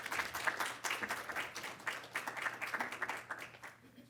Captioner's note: audience clapping